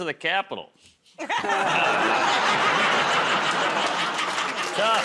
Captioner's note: laughter, groaning